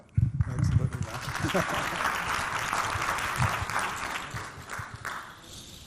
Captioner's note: laughs; audience clapping